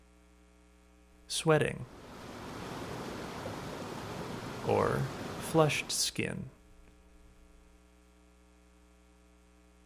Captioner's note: water rushing